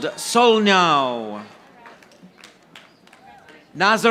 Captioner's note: audience applauding